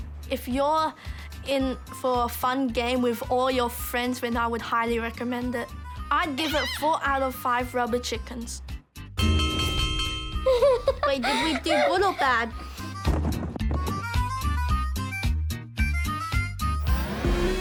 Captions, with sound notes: If you're in for a fun game with all your friends, then I would highly recommend it. I'd give it 4 out of 5 rubber chickens. (BELL CLANGS) (LAUGHS) Wait - did we do good or bad?